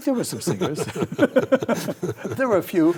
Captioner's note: both laugh